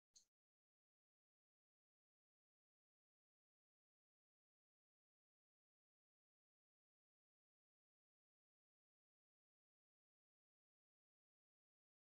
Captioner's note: silence